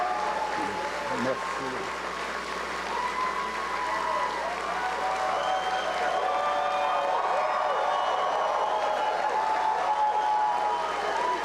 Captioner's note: cheers and applause